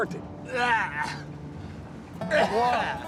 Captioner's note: coughing; gagging